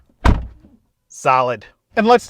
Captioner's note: door thuds